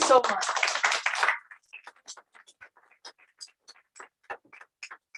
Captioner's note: applause